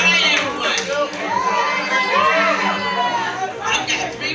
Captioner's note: crowd cheering